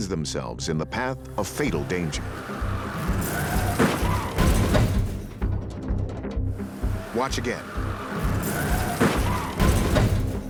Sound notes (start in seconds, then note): 2.4 tires screeching; 3.7 crashing sounds